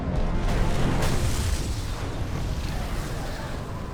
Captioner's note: explosion